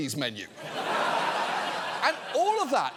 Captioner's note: studio audience laughing